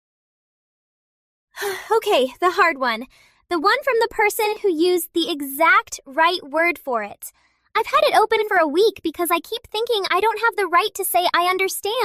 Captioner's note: breath